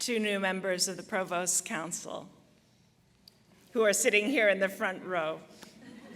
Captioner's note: laughter